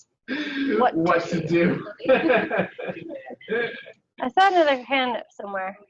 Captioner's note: laughs